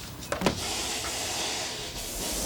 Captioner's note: sizzling